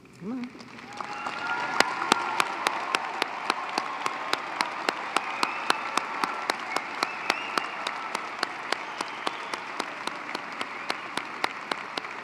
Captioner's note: applause